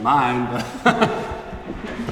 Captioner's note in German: lacht